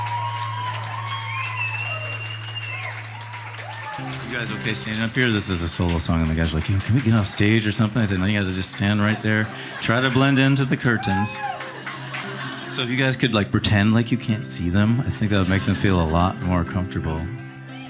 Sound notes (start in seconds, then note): 11.2 audience laughing